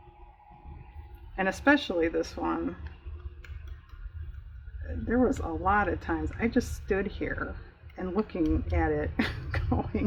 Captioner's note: laughs